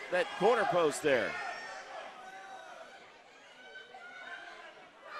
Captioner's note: crowd shouts